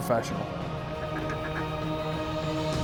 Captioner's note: duck calls